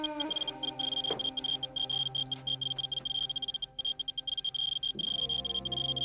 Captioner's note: dramatic music; geiger counter beeping